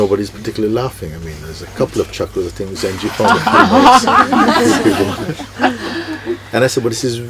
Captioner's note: laughter